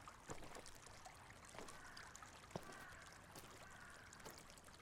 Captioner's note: water trickling